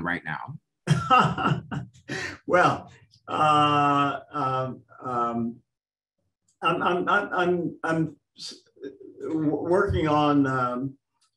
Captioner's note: laughter